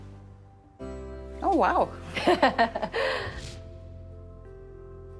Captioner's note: light music; laughs